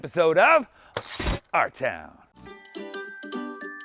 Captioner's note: electricity buzzing; upbeat music